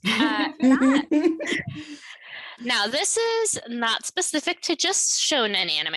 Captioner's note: laughter